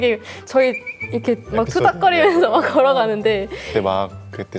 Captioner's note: chattering